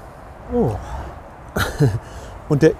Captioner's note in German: Lachen